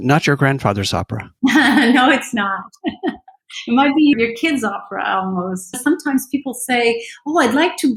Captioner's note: laughter